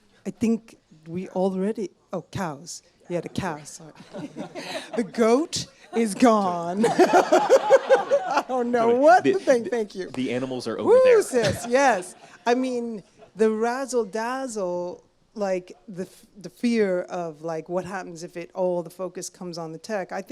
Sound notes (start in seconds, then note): 3.9 audience laughs; 5.8 laughs